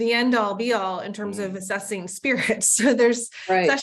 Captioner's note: laughs